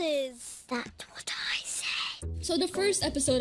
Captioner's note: lola, whispering